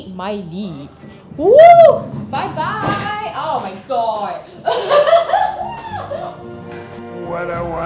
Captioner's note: laughs